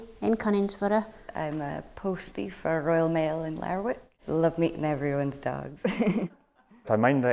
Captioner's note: laughs